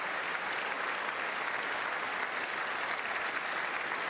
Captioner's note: applause